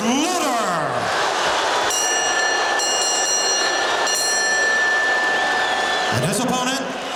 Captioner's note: audience shouting; bell ringing